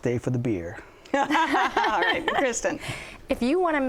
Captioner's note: laughter